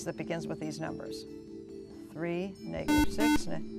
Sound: buzzer

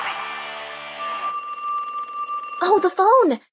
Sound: phone rings

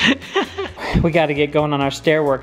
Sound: laughs

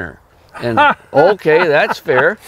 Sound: laughs

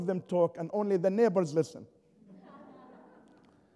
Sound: laughter

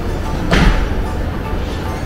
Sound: laughs

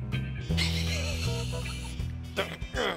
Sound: chuckles

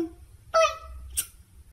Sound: smooch

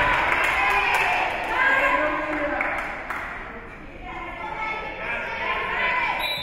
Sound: spectators cheering and applauding; spectators shouting encouragements; whistle being blown

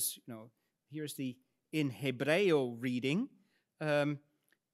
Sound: speaks in Latin

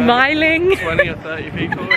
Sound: laughing

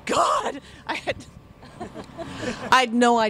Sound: stifles laughter

